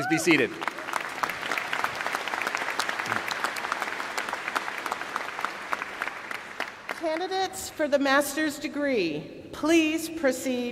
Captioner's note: applause